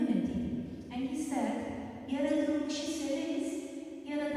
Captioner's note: non-english speech